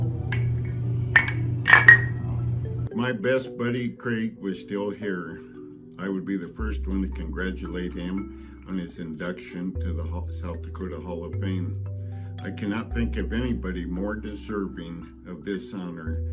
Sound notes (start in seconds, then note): 2.0 cups clanking